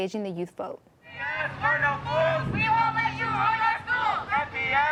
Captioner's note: crowd chanting